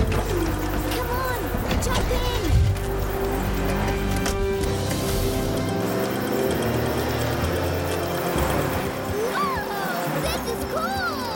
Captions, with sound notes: - Come on! Jump in! (buzzing) - Whoa! This is cool!